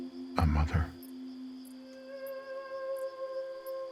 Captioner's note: none